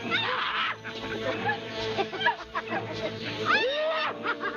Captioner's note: chattering; screaming